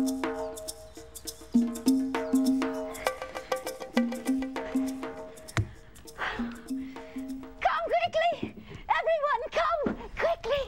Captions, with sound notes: ( sighs ) COME QUICKLY! EVERYONE, COME! QUICKLY.